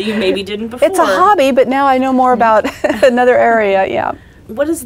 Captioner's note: laughs; laughs